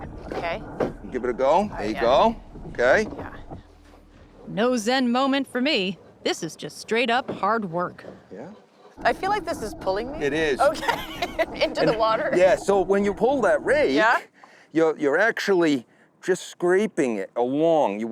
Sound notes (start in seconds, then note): 10.6 laughs